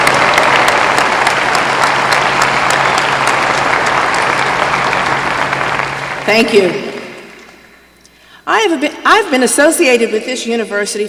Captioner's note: applause